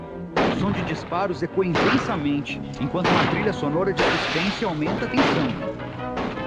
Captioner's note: gunshots - tense music